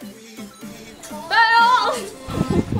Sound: hollers; laughs

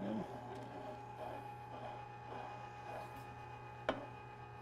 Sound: machine roaring

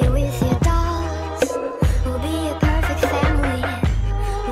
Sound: echo

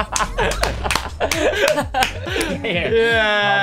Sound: applauds; more applauding; applauds

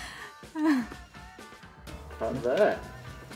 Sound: laughing

